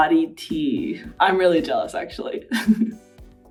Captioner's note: chuckles